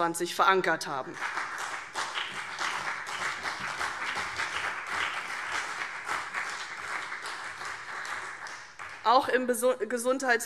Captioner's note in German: Beifall CDU und BÜNDNIS 90/DIE GRÜNEN